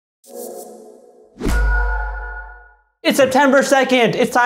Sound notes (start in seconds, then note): 1.3 a whoosh and a ping